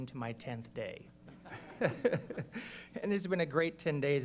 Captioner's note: laughter